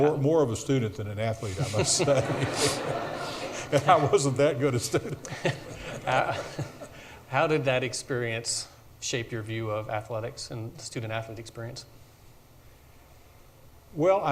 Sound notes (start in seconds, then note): 1.4 audience laughs